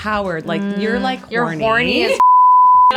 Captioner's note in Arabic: الصافرة